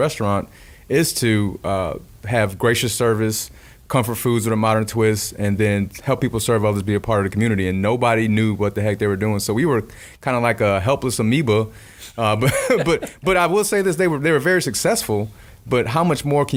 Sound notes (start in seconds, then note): 12.4 laughing